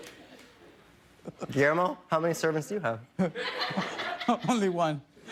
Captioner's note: laughter